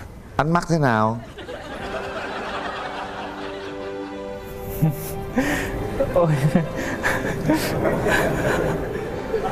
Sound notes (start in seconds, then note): 1.5 laugh; 6.5 chuckle